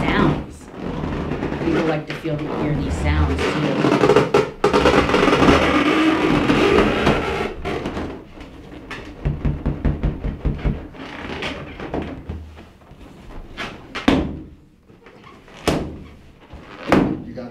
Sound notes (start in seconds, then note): 5.2 squeaking; 5.2 thumping; 10.8 tapping